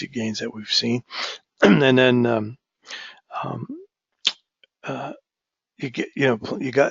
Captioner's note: cough